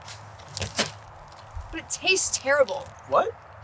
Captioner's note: spits